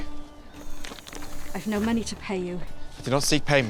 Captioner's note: sighs